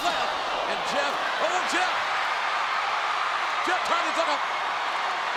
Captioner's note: crowd cheering